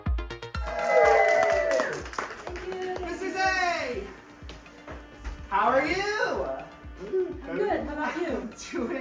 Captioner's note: applause